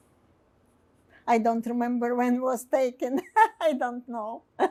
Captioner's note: laughing